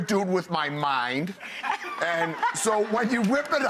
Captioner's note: laughing